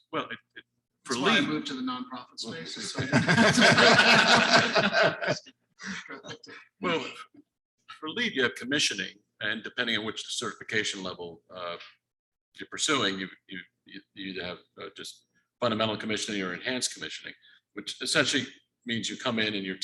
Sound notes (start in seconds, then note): 2.7 all laughing